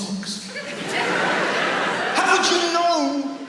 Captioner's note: audience laughs